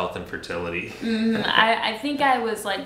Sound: laughs

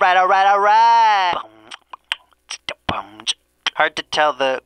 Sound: beatboxing

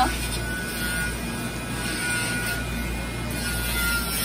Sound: machine whirring

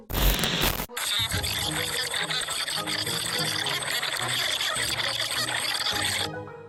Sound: alien Noise

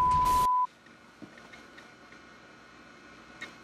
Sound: whirring computer noises

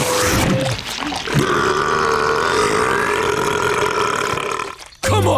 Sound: burping

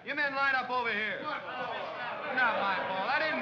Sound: men grumble

